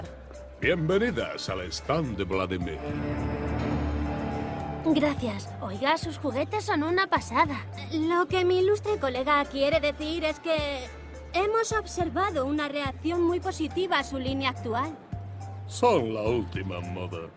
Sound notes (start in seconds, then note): none